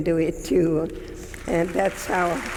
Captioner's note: audience clapping